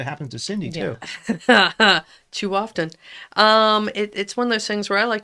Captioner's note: laughs